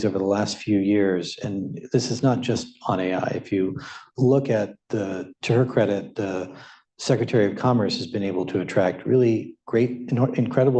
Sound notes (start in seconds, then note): none